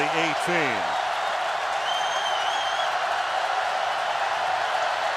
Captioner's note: cheering